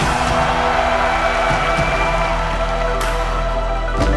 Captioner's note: applause